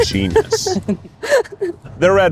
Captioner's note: laughs